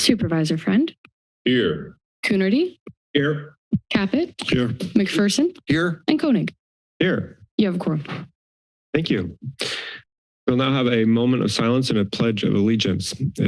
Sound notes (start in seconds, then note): 9.5 inhales